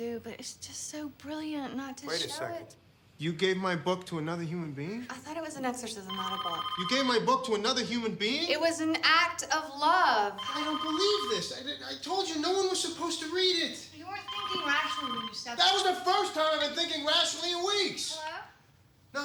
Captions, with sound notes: but it's just so brilliant. Not to show it... -Wait a second. You gave my book to another human being? I thought it was an exorcism, not a bomb. You gave my book to another human being? [phone ringing] It was an act of love. I don't believe this! I didn't... I told you no one was supposed to read it. You weren't thinking rationally. That was the first time I've been thinking rationally in weeks! Hello?